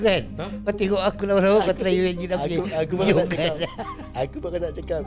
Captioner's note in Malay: ketawa; ketawa